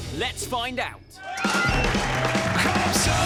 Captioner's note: cheering